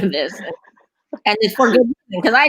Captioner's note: laughing